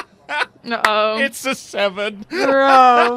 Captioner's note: laughs